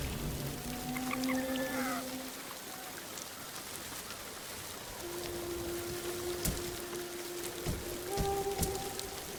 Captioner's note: thunder rumbling; somber music